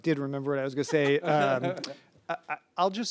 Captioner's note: laughing